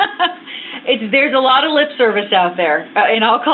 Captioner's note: laughter